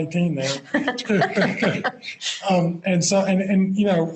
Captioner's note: both Laugh